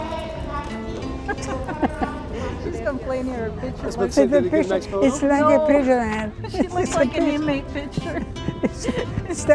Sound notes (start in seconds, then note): 1.2 laughs